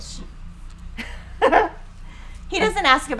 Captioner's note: laughing